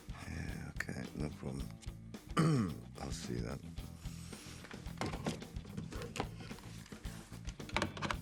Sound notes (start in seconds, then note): 2.3 throat clears